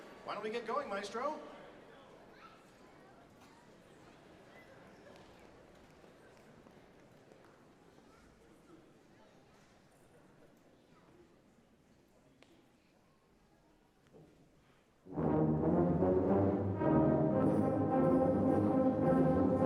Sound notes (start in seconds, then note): 4.5 people chatter indistinctly